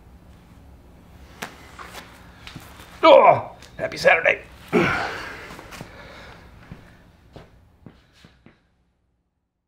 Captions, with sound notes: (grunting) Happy Saturday!